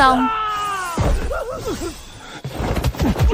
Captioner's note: shouting